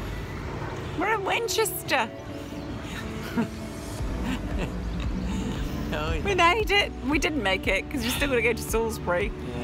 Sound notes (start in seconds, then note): 4.1 laughs